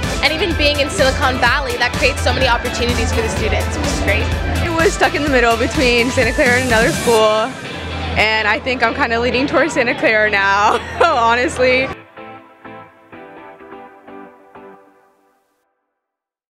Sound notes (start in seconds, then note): 9.3 laughs; 12.7 upbeat pop music